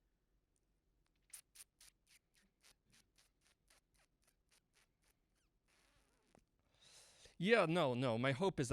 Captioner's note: mouth sounds